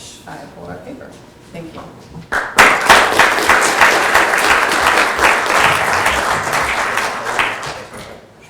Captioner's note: applause